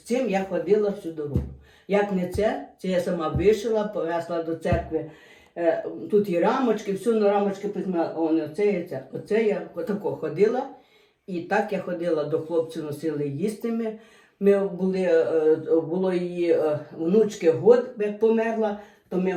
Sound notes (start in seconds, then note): 11.6 Ukrainian